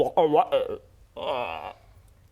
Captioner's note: ribbet; sad ribbet